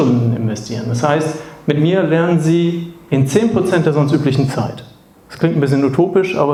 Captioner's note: German